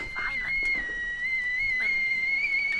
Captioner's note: teakettle whistling